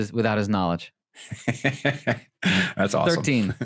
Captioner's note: laughing